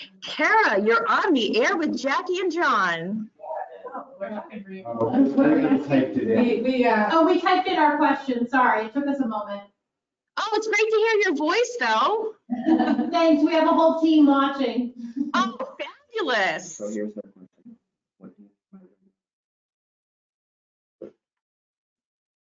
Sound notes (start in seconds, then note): 3.4 group talking in background from call in